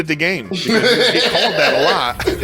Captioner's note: laughing